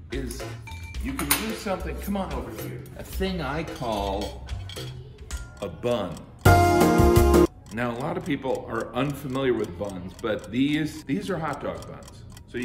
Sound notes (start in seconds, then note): 6.4 elevator music; 7.7 clock ticking